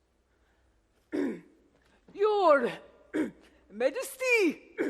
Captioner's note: clears throat